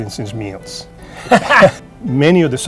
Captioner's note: laughing